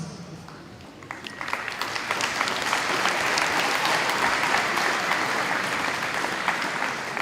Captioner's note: audience applauding